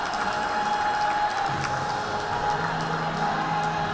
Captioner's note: spectators applaud